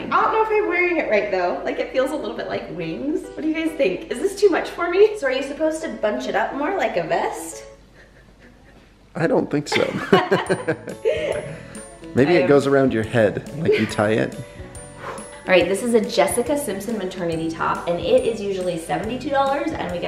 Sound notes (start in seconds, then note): 9.7 couple laughs; 14.7 makes whooshing noise